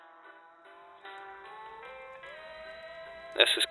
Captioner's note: fire Crackling